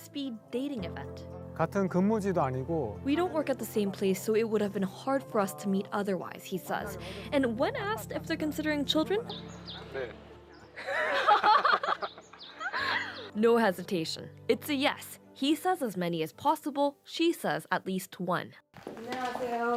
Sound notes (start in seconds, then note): 7.0 speaking Alternate Language; 13.5 laughter